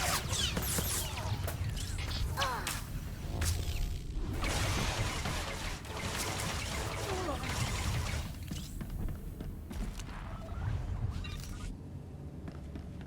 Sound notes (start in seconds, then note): 2.9 gun firing